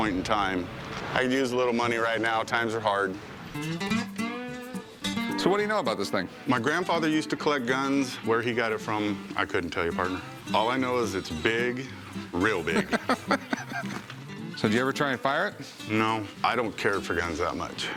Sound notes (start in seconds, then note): 12.6 laughs